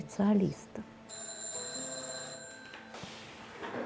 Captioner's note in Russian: звонок телефона